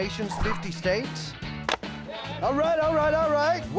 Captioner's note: chopping